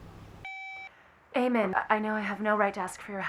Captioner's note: phone beep